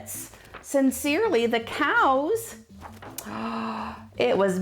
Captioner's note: gasps